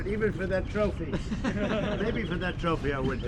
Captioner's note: laughter